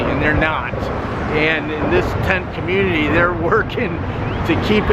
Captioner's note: chuckles